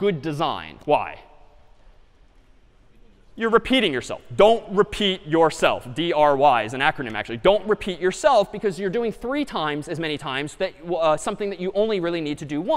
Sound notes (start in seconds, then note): none